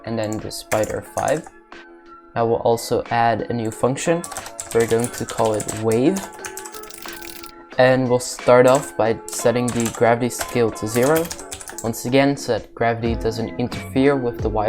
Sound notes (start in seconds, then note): 4.2 agressive typing